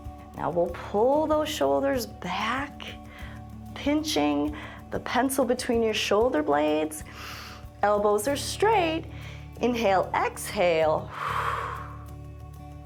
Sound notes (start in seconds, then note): 7.1 inhales; 11.0 exhales